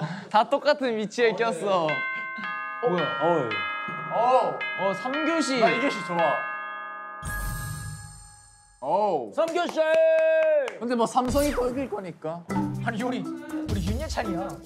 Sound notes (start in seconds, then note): 1.7 bell notifies the start of class 3